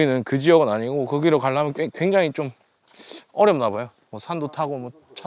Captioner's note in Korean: 콧방귀